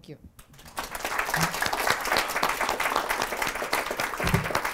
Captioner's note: applause